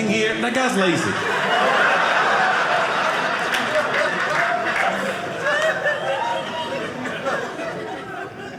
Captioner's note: audience laughing